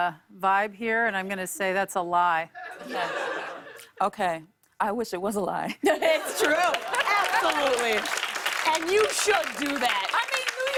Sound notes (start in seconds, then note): 2.5 laughter